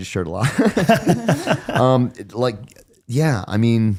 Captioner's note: both laughing